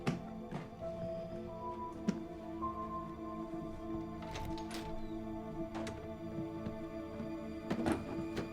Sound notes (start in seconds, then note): 0.0 suspenseful music; 4.2 door latch clicks